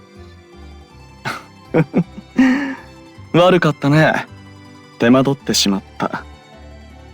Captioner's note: laugh